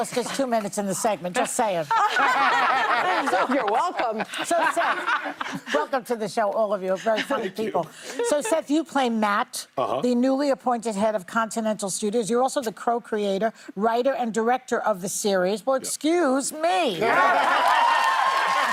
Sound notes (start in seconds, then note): 8.1 laughter